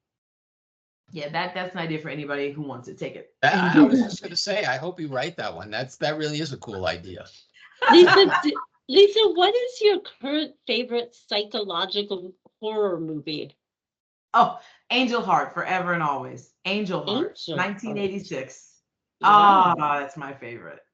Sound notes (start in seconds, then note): 3.4 chuckling; 7.7 laughing